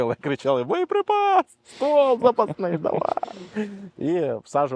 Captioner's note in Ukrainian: сміється